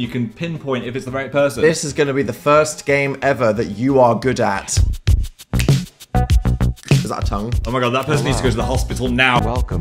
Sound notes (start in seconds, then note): 4.7 upbeat music; 5.5 fingers clicking